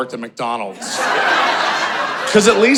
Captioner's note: audience laughing